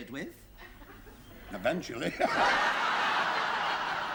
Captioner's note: laughter